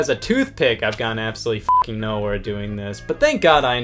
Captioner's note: beep